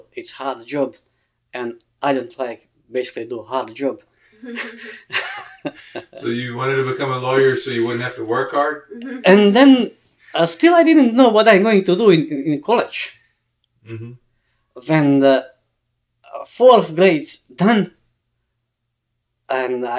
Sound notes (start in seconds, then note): 4.4 all laugh